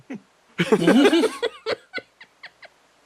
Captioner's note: laughs